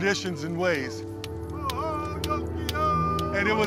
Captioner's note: chanting continues